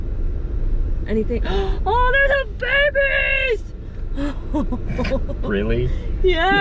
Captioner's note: gasp; laughing